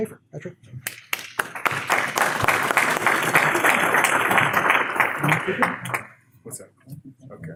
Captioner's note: claps